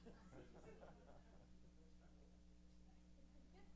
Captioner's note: laughs